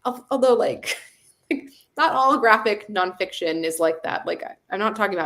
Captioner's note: chuckles